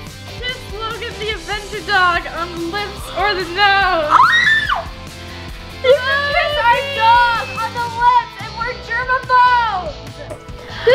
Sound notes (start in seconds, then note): 3.8 screams